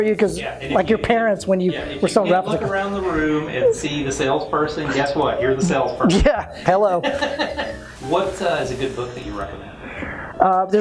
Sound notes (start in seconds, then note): 7.2 laughs